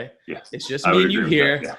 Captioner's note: laughs